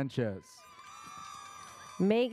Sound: audience cheers

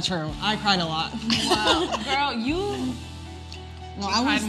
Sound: laugh

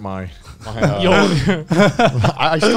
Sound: laughs

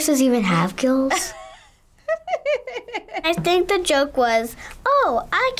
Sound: laughs

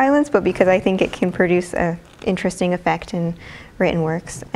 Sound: none

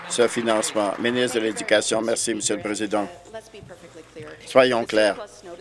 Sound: applause

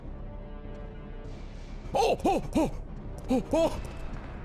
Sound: stress noises

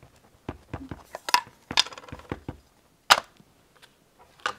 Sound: ink pad tapping; lid clanking

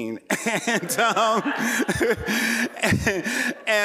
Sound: laughing

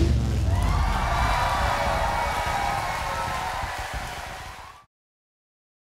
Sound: crowd cheering; crowd clapping

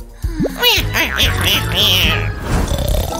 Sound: keeps snoring

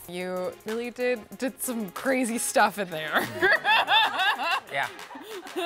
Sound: laughs

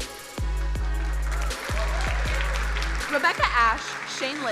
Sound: crowd applauding

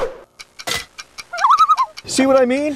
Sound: loon calls; loon calls

